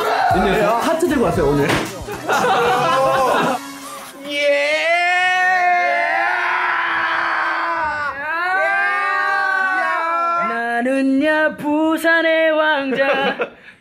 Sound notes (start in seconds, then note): 1.9 laugh; 4.3 shouts